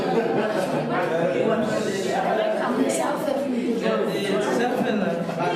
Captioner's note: laughter, continued speech